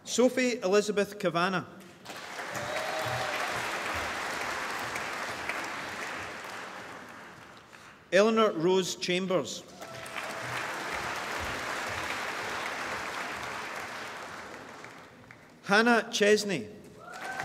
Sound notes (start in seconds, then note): 2.0 applause; 9.7 applause; 16.9 applause